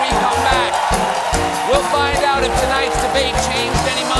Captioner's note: cheers and applause